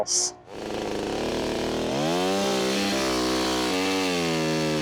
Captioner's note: chainsaw roaring